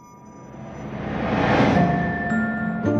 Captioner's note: memory image whooshes; bright music